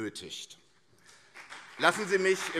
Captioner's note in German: Beifall CDU und SPD